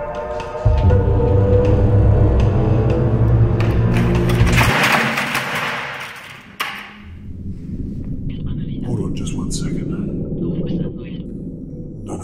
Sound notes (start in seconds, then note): 3.6 junk clattering